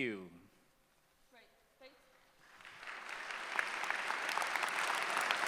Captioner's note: applause